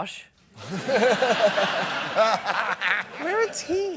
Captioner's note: laughter